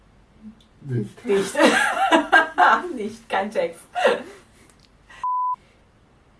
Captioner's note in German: lachen